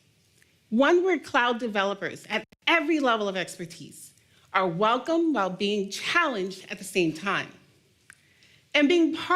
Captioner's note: none